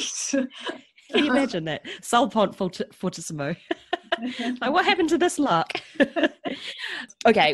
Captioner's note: laughs